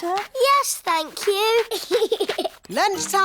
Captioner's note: giggles